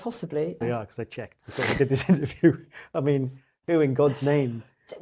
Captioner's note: laughs